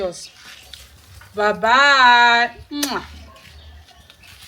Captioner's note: kisses